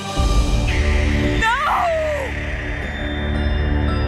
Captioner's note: owl screeches